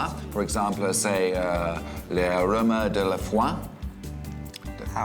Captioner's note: speaks french